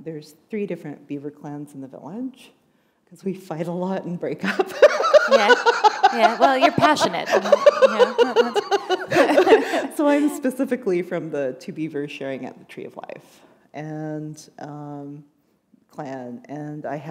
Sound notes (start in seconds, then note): 4.4 laughter; 8.2 chuckle